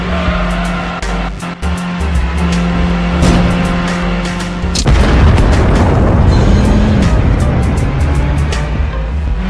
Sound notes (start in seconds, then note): 4.8 explosion